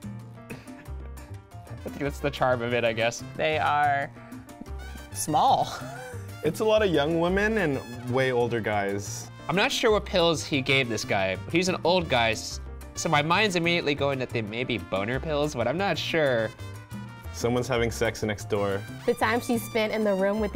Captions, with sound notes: I feel it's the charm of it, I guess. - They are small! (laughs) - It's a lot of young women and way older guys. - I'm not sure what pills he gave this guy, he's an old guy, so my mind's immediately going that they may be boner pills, but I'm not sure. - Someone's having sex next door. - The time she spent in the room